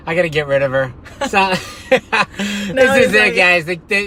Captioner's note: laughing